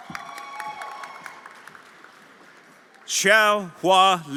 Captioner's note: everyone applauding and cheering